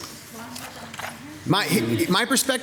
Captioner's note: staff member speaking faintly